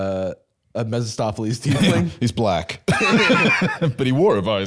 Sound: laughs

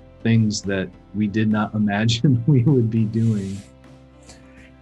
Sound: laughing

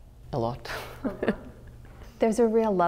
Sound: laughter

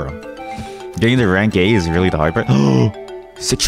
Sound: gasp

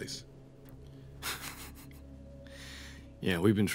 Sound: chuckling

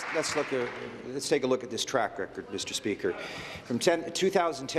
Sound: applause

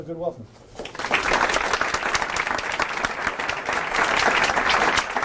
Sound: applause

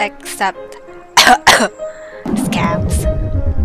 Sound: cough cough

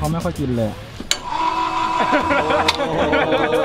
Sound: machine moving; laughs

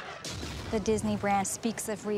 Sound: explosion booming

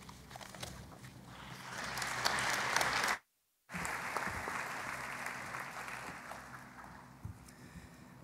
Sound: applause

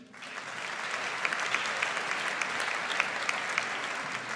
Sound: audience applauds

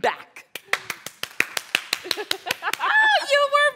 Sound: applause

